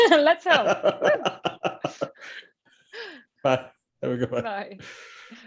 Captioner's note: laughs